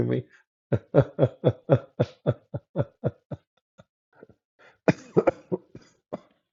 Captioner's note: Ketawa